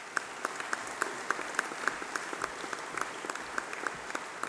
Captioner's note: applause